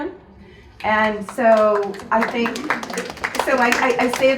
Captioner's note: audience applauds